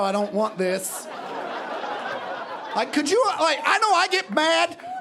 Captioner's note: audience laughing